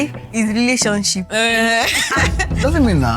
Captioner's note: laughs